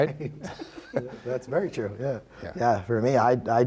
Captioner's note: laughs